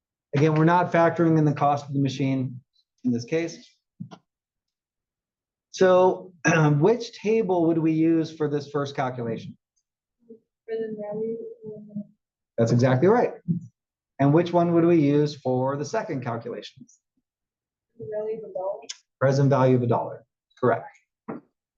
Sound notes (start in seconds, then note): 6.5 cough